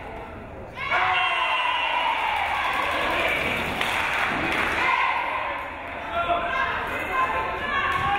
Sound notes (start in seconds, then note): 3.2 crowd cheering